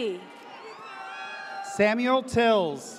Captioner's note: audience cheers